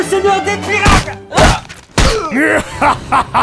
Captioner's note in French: Baffes